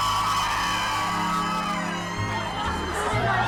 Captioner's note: crowd cheering